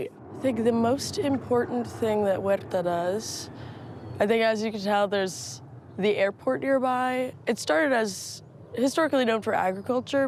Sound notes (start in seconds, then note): 4.9 plane engine roaring